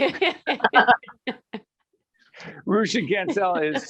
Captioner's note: laughing